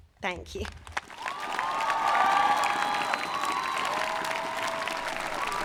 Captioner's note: audience applauding